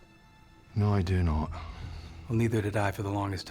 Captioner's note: scottish accent